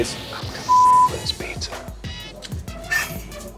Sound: beep; funky music

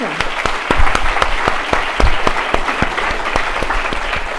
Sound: applause

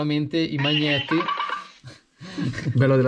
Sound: beep beep!

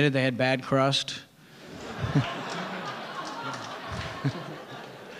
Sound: audience laughing

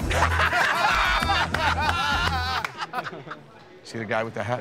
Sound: laughter

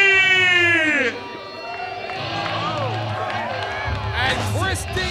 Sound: cheers and applause

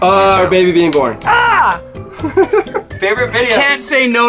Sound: screams

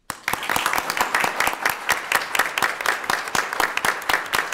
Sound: audience applauding

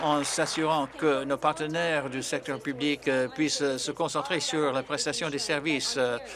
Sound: applause

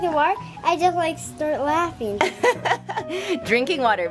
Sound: laughing

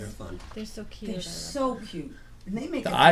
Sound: voiceover

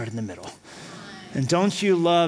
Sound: audience reacts

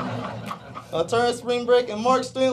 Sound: laughing

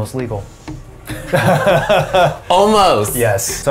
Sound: laughs

